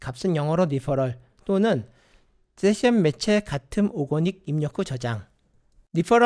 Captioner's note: click